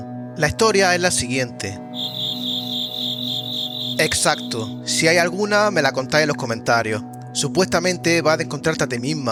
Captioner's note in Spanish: Grillos